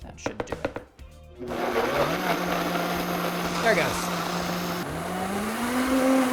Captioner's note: blender whirring; blender whirring faster